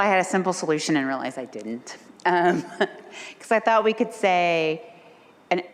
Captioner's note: laughs